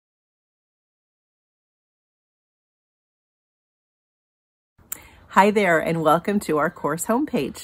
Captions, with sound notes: [Silence] Hi there and welcome to our course homepage.